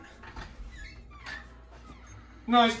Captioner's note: door squeaks